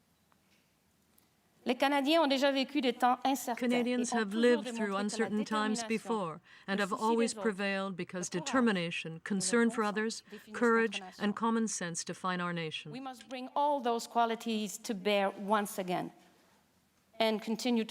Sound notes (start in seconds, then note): 6.0 speaking french